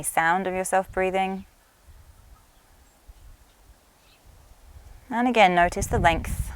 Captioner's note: inhales and exhales softly